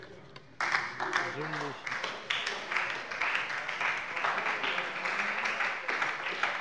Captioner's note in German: Beifall bei der SPD